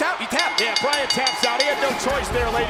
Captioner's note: bell ringing